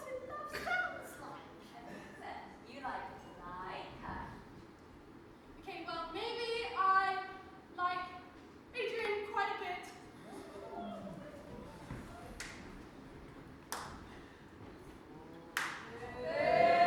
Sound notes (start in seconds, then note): 11.2 all squeal; 13.2 Stepmother claps slowly; 13.2 audience boos